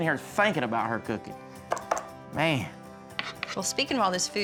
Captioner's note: taps pen